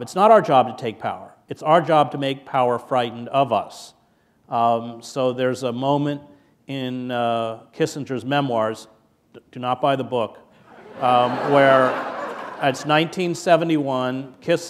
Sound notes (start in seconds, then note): 10.6 laughter